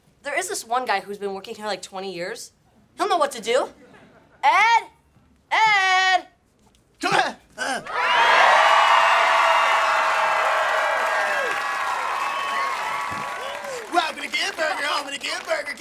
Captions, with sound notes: There is this one guy who's been working here like 20 years. He'll know what to do! Ed! Ed! [cheering] Welcome to Good Burger, home of the Good Burger,